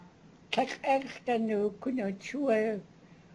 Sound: non-english speech

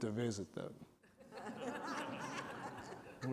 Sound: laughter

